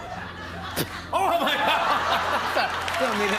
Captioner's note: spits